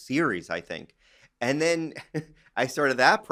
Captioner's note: chuckles